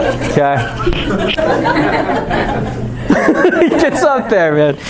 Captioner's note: chuckling